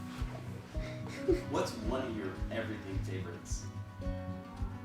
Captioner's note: chuckles